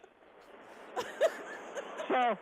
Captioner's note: laughing